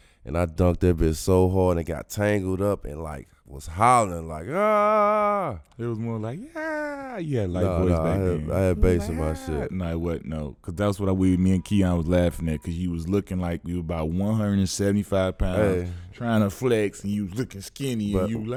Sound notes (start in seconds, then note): 4.7 yelling; 8.6 whimpering